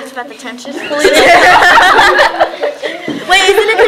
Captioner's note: laughter